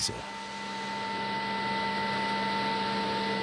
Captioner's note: roaring sawing noise